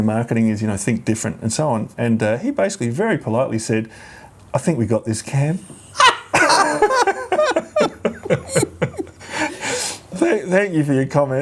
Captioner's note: laughs